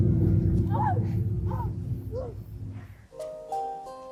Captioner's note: gasping; gentle music